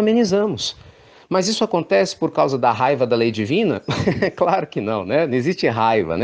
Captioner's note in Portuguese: risos